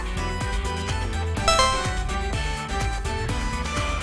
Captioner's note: buzzer sounds!